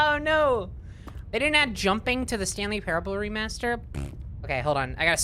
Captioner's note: tongue raspberry